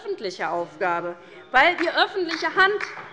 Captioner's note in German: Beifall bei der LINKEN